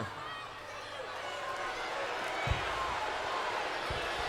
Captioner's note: crowd boos